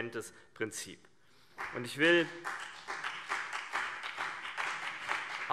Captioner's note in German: Beifall BÜNDNIS 90/DIE GRÜNEN